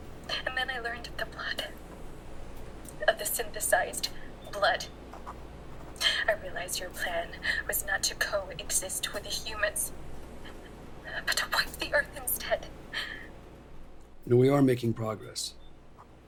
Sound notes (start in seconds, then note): 12.4 crying